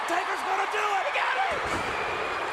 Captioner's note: applause